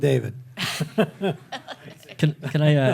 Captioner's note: laughing